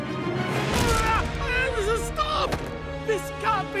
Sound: screams

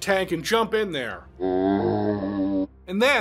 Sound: zombie groan

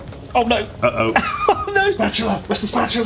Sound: dramatic suspenseful music; laughs

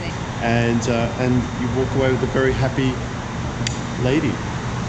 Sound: tongue clicks

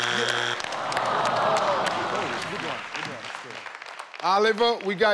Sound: audience jeers

